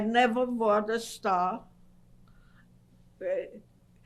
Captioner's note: pauses for 3 seconds